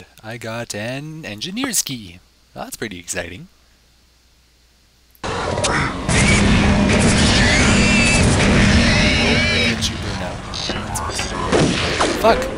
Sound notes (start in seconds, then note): 3.4 gunfire and pig noises; 8.6 rifle fire